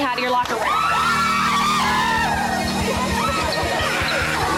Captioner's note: women cheering